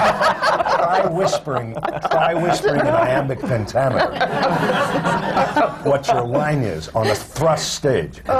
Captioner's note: laughter